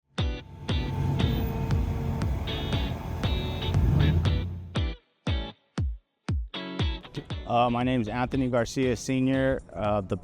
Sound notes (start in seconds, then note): 0.2 upbeat music; 0.4 machinery whirring